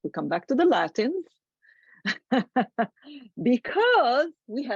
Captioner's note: laughs